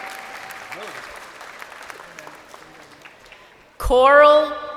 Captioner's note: crowd cheering